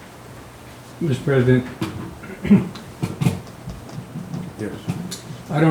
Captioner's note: clears throat